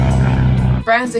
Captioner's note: engine revving